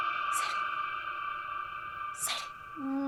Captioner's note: whispers